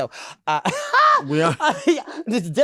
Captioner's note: laughs